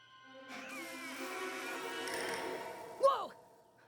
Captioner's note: creeeak!